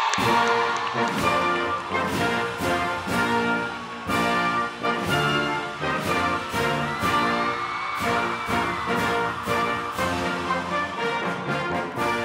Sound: laughter and applause

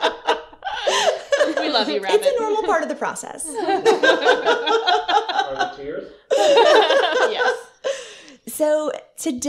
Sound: laughter

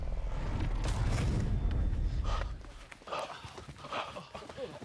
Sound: labored breathing

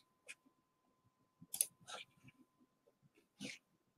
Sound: mouse clicking

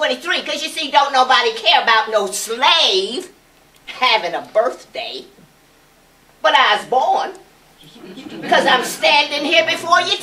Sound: laughter

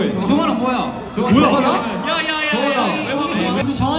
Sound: whispering

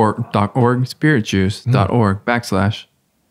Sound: none

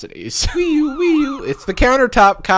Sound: sirens blare

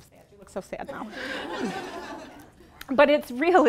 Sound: laughing

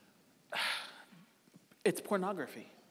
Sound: sighing

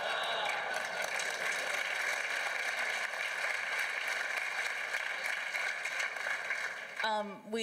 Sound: applause from the floor

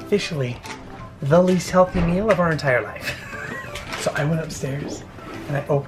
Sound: laughs

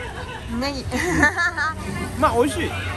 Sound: laughs

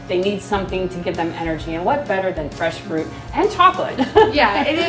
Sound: laughs

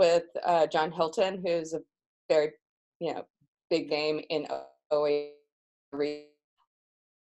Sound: audio fades out

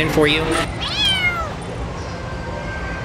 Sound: meow

